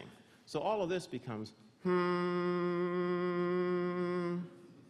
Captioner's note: humming